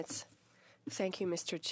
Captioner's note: speaking French